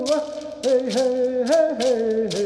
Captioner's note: chanting